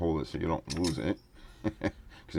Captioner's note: laughing